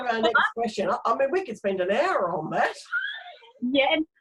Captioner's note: laughs